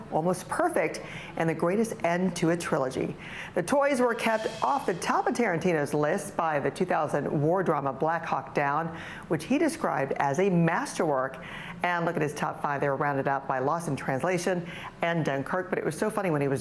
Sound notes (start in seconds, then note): none